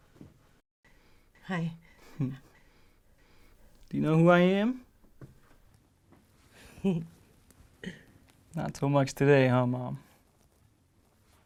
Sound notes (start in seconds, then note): 6.6 laughs